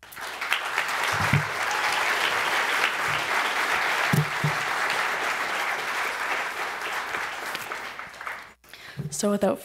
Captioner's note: applause